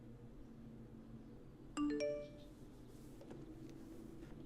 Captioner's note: phone beeps